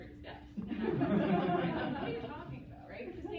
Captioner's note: laughter